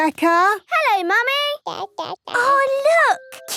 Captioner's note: babbling